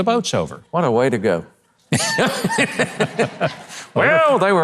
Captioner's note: laughs